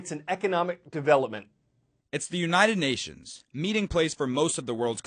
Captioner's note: voice-over